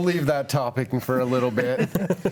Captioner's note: group laughs